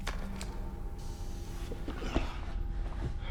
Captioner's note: air hissing